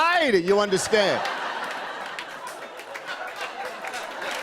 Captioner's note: laughter and applause